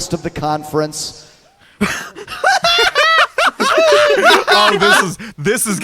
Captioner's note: everyone laughs